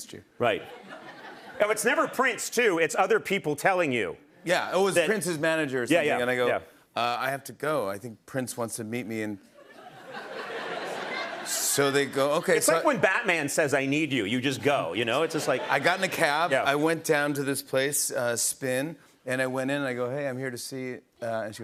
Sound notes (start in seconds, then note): 9.6 laughter